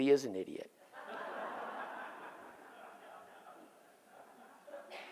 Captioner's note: audience laughs